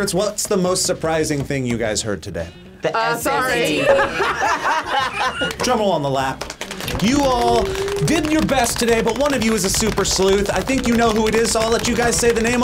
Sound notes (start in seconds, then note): 3.4 group laughs